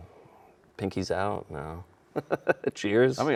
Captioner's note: laughing